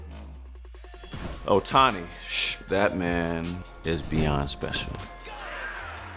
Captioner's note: exhales